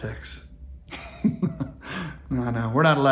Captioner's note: laughing